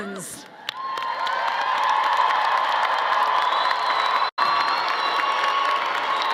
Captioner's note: audience cheering and applauding